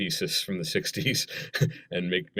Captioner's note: chuckle